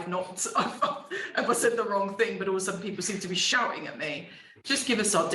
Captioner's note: laughing